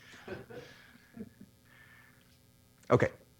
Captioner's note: laughter